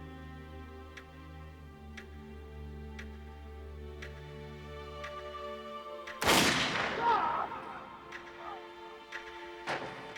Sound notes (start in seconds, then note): 6.2 gun firing; 6.8 screaming